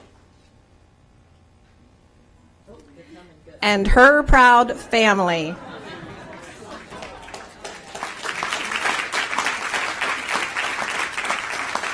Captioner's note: applause